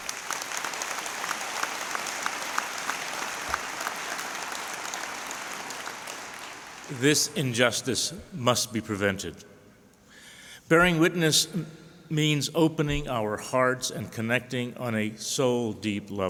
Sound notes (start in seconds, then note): 5.2 applause